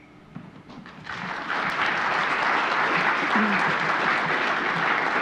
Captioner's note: audience clapping